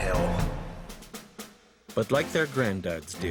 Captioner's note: voiceover